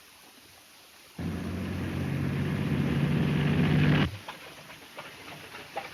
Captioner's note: vehicle engine roaring